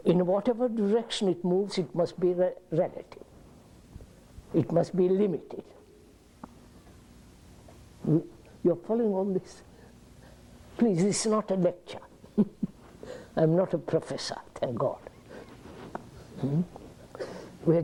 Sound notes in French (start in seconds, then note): 12.3 Rires